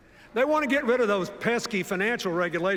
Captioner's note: none